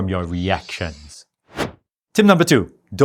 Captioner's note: air whooshing